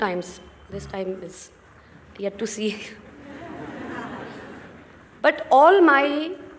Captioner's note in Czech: smích